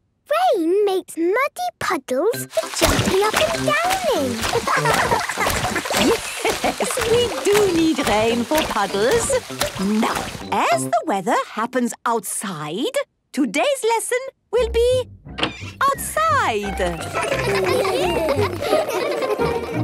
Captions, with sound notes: - Rain makes muddy puddles for jumping up and down in! (laughing) (Madame Gazelle laughing) - Yes, we do rain for puddles. Now, as the weather happens outside, today's lesson will be... outside. (laughter)